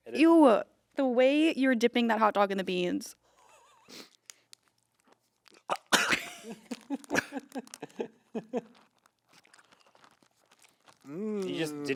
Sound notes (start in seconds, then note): 3.5 Anthony chocking; 3.5 group chuckling